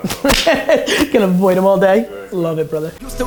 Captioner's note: laughs